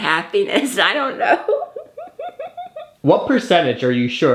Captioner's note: laughs